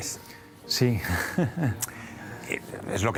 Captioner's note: laughs